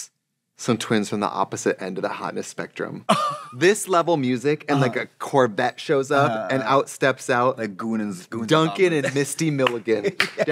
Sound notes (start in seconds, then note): 4.7 Katya laughs; 8.7 Katya laughing and clapping